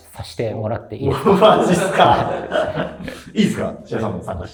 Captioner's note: laughing